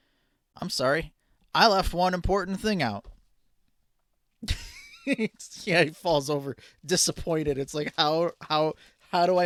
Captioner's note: laughing